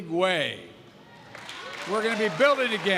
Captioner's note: applause